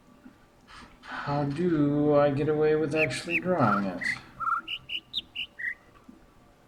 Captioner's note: overlapping birds chirping, ˥ ˥ ˩ ˧ ˩